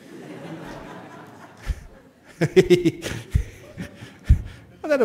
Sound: laughter

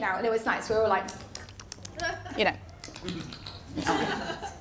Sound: kissing sounds; laughter

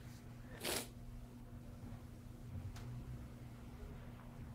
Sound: sniffling

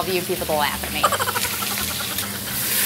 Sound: chipmunks giggle sfx

